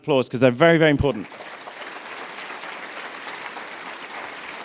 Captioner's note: applause